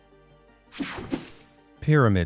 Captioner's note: screen whooshing